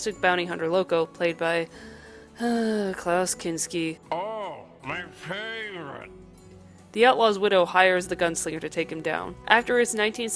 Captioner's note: siggggh